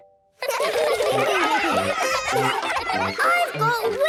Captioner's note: excited laughter